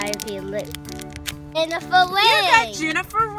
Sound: voiceover

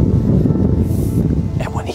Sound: wind whooshing

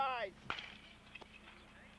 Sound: bat cracking

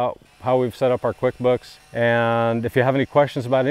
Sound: weed wacker buzzing

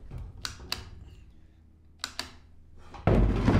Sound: clicking

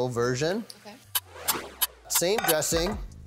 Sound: clock ticking

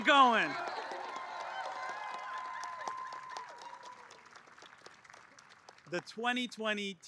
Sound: applause

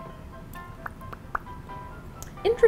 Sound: smacks lips

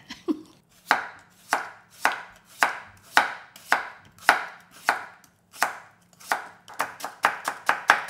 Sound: laugh; chopping sound; faster chopping sound

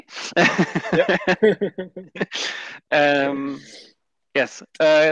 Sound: laughs

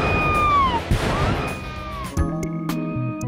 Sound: gun shot; explosion; elevator music

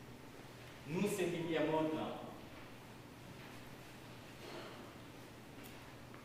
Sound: man speaking in Haitian Creole

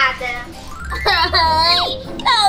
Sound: crying

